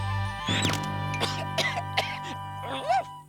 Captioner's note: cough cough